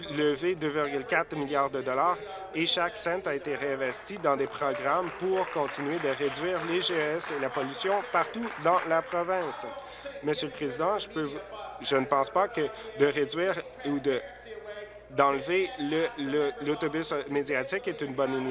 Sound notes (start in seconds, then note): 8.1 applause